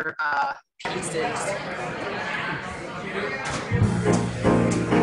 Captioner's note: audience chattering; upbeat jazz music